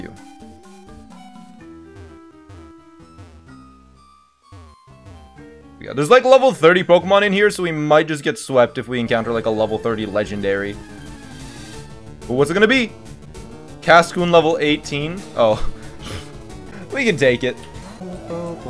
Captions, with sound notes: Yeah, there's like level 30 Pokemon in here, so we might just get swept if we encounter like a level 30 legendary But what's it gonna be? Cascoon level 18. Oh [laughs] We can take it